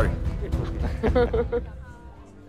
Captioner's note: Jannat and Raghu laughing